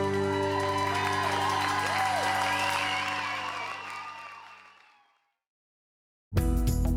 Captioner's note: cheers and applause